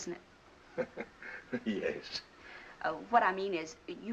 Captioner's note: laughs